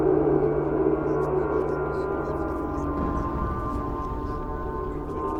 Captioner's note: distorted whispers